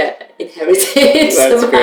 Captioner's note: laughter